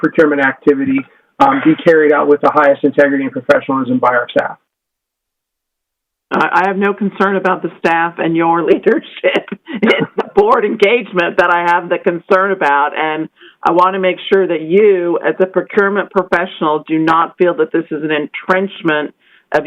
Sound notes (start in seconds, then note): 8.8 laughter